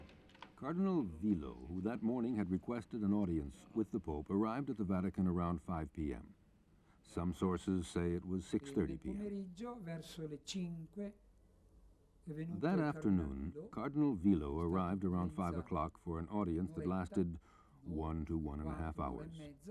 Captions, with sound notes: Cardinal Villot, who that morning had requested an audience with the Pope, arrived at the Vatican around 5:00 p.m. Some sources say it was 6:30 p.m. [Italian spoken audio] That afternoon, Cardinal Villot arrived around five o'clock for an audience that lasted one to 1.5 hours.